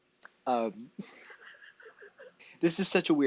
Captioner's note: laughs